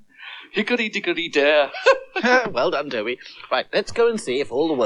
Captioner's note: singing; laughs